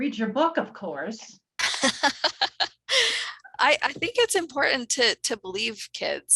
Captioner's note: laughs